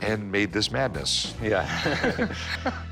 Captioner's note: laughs